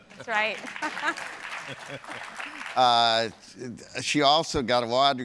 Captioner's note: applause